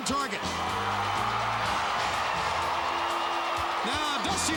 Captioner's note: crowd cheering